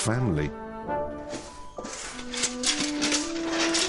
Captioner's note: rattling